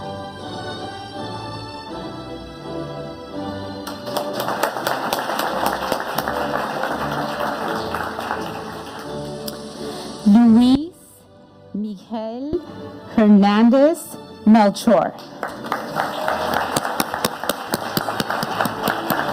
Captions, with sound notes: (audience applauding) Luis Miguel Hernandez Nacho. (audience applauding)